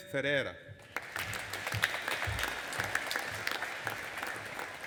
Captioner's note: audience applauding